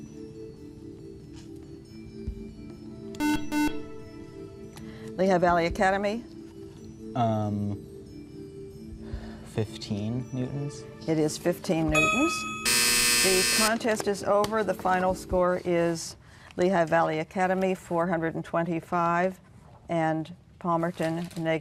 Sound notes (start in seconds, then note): 1.3 buzzer